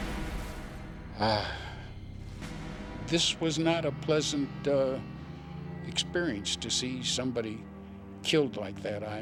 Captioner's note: sighs